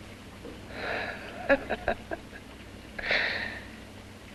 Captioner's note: laughs